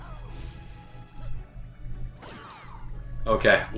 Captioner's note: Piranha Plant thuds